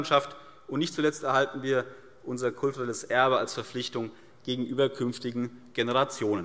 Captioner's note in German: none